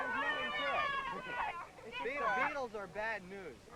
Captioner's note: loud cheering